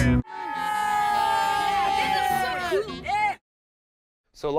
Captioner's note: kids cheering